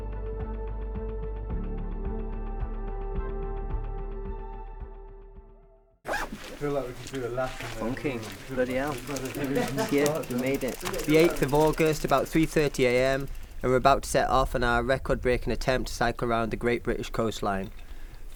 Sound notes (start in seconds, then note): 0.1 tense instrumental; 6.0 zip closes